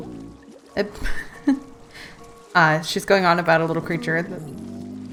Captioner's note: laughs